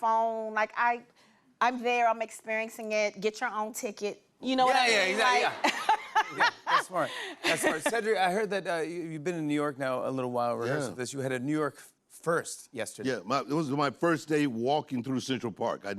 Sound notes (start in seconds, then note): 5.6 laughter